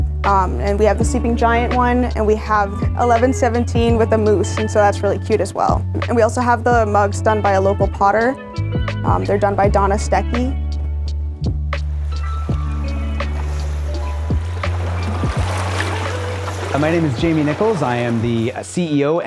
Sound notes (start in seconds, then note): 11.6 calm piano music; 11.8 water rushing